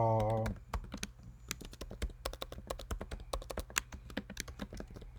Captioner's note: keyboard tapping